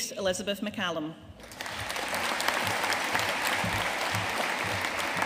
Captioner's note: audience applauding